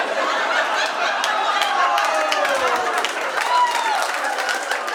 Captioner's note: audience laughing